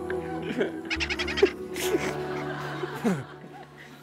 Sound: giggling

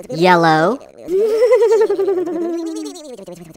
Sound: giggles

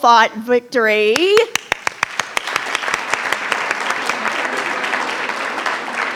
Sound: attendees applauding

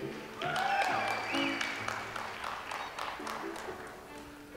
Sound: audience applauds

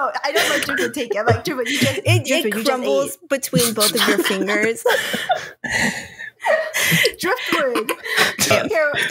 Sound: laughter; laughter continues

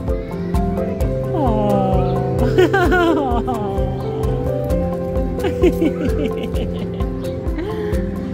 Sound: laughter

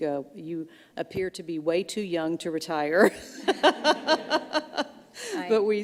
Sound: laughs

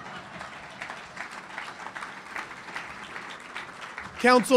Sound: audience applauding

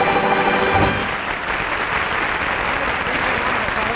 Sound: audience applause

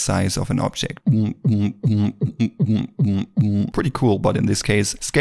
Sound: vocalizes

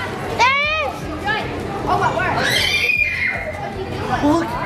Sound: indistinct background chatter

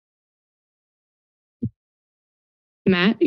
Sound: silence

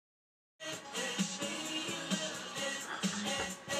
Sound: background TV noise/music

